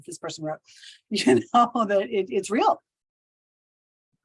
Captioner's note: chuckles